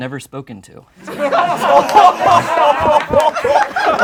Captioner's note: laughing